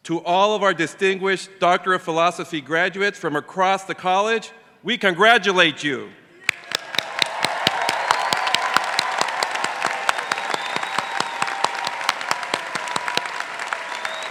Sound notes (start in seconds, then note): 6.4 crowd cheering and clapping